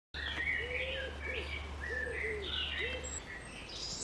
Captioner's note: birds chirping